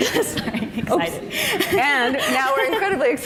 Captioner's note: laughing